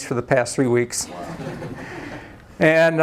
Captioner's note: laughter